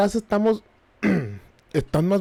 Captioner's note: throat clearing noises